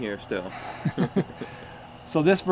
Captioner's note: both chuckling